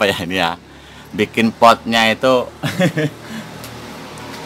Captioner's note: laughs